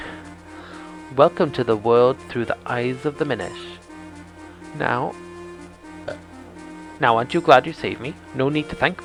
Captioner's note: quiet burp